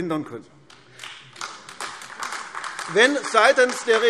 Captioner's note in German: Beifall AfD